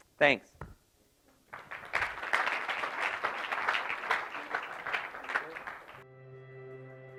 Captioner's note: applause